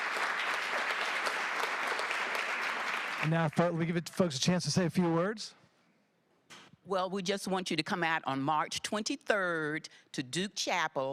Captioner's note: applause